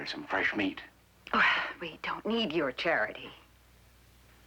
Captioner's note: scoffs